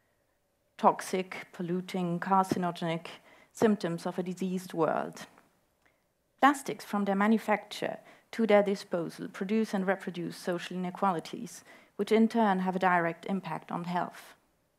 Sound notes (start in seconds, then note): none